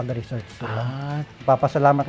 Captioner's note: exclaimed